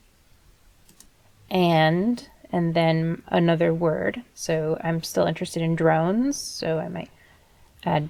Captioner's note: typing